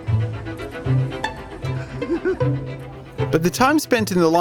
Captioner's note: giggles